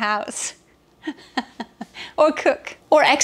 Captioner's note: laughing